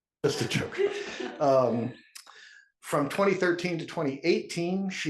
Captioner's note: laugh